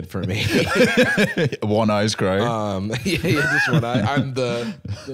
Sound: laughs

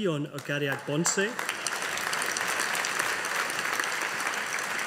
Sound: audience applauding

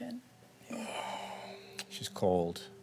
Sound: sighs

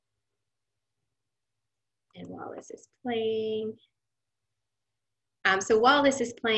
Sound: silence

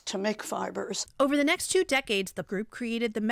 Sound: voice-over

